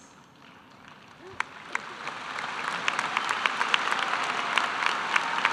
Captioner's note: cheering and applause